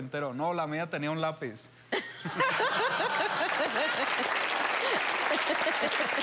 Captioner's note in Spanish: Risas